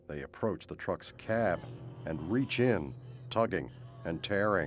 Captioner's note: groaning